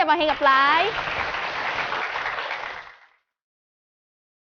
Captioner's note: applause